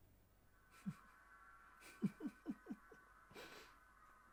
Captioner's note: Sue chuckles